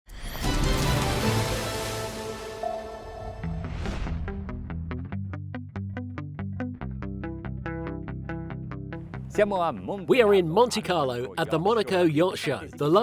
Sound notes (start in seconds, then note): 0.3 upbeat music; 3.7 electronic music; 9.4 speaking foreign language